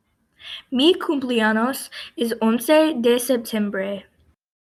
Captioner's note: girl speaks in Spanish